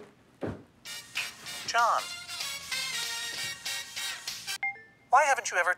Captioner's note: swing dance ringtone